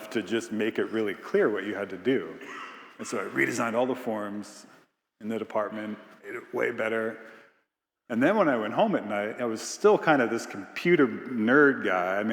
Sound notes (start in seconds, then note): 2.2 attendee coughing